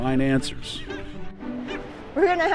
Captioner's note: birds chirping